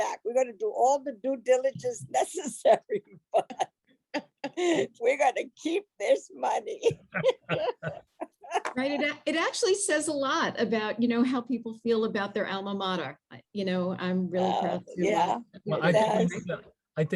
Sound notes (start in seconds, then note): 6.8 laughing